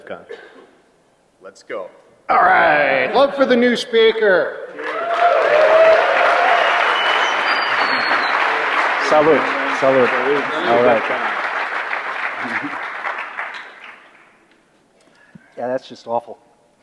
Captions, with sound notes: >> Let's go! >> All right. Welcome for the new speaker! [Cheers and applause] >> All right. All right. Solid. >> God, that's just awful! (Laughter) >> So these